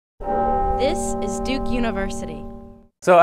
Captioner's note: bell ringing